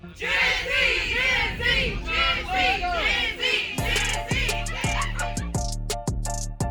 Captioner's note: chanting